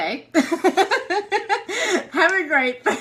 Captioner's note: laughter